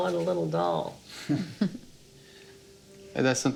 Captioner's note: laughing